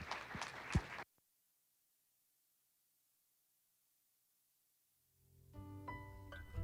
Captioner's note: applause; silence